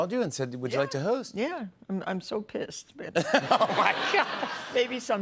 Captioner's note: laughing